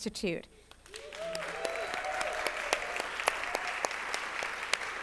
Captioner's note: applause